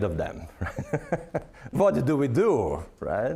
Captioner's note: laughing